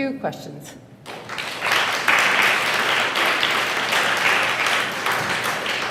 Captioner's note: applause